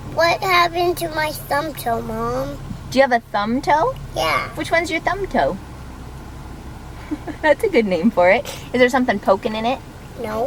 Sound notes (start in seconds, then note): 7.0 laughs